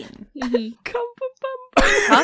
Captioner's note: quietly, laughing; laughter